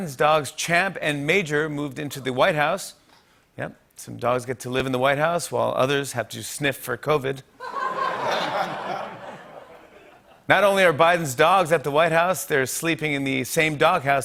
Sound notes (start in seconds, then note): 7.6 laughter